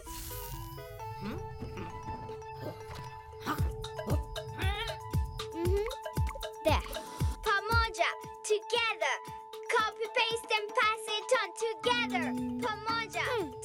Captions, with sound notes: - Hmm? Huh? (excited bleating) - Mm-hmm. There. Pamoja. Together. Copy, paste, and pass it on. Together. Pamoja. Together we stand...